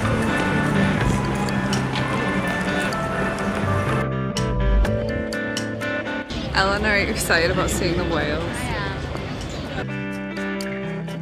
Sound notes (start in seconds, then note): 2.2 footsteps